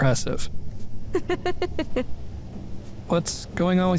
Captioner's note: female giggles